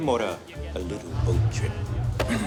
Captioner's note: whispering